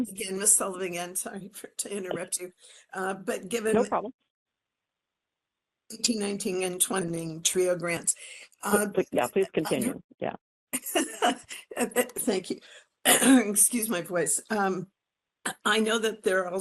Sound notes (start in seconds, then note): 12.1 laugh; 13.2 cough